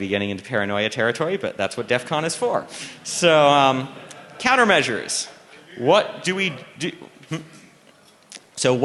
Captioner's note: laughter